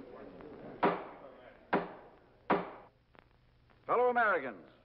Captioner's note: gavel thuds